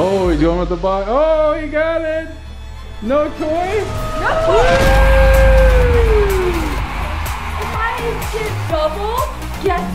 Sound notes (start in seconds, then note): 6.6 cheering drowning out; 6.6 crowd cheering